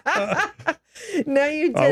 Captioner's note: both laughing